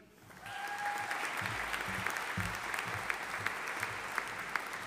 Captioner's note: audience applauding